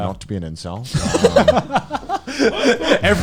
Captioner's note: laughing